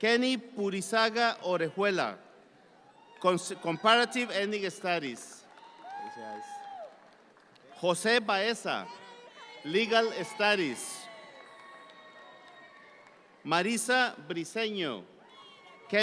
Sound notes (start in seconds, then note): 5.4 audience cheering